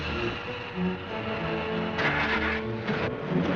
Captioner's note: engine turns over